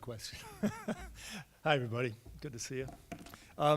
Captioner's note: laughs